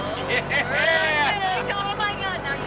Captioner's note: plane engine roaring; laughing